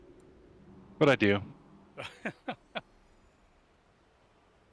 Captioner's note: laughs